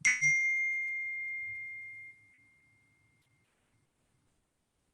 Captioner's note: bell ringing